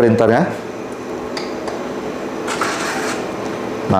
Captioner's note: printer machine sound; power button sound